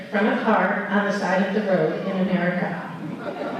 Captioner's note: laughter